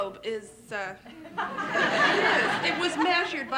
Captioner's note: laughter